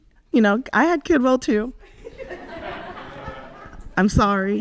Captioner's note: audience laughs